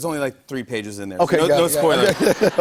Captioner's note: laughter